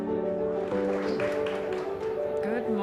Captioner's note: audience applauding